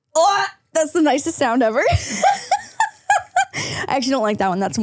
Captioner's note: laughs